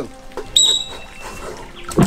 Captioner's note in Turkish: Düdük